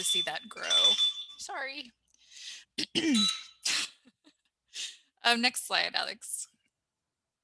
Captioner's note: phone beeps